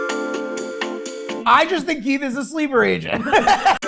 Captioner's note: laughing; gentle music